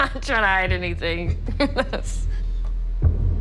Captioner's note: laughs